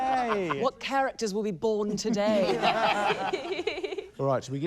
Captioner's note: laughter